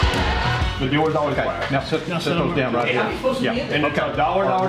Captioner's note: indistinct conversation